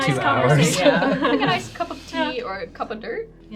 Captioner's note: group laughs